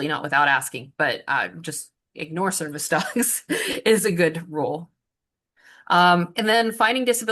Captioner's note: chuckles